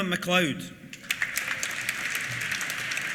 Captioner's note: applause